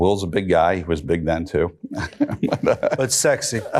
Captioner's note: chuckles